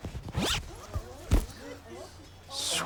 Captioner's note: unzip